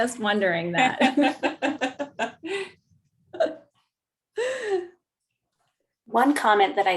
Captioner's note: laughter